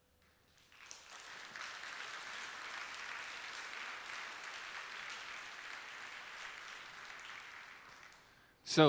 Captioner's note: applause